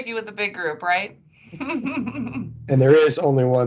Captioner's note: laughing